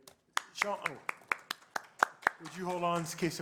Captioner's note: applause